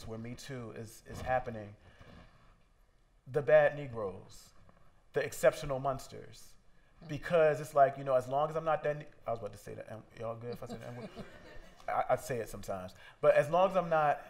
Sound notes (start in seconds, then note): 10.4 laughter